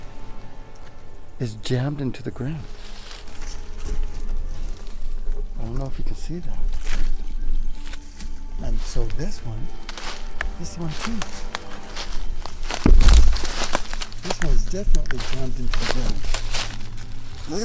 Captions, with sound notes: is jammed into the ground. I don't know if you can see that. And so this one. This one too. (leaves crunching) (twigs snapping) This one's definitely jammed into the ground.